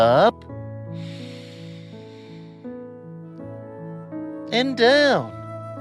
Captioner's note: breathes deeply